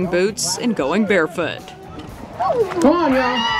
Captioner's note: squeals